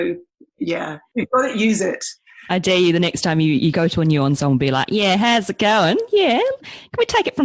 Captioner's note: mock aussie accent